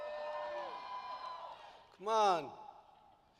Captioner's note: applause